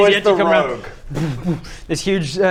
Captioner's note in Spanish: boo-boomf